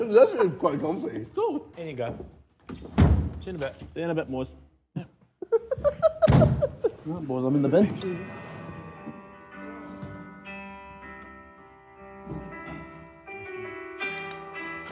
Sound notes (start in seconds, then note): 5.4 JJ giggling; 7.5 instrumental music playing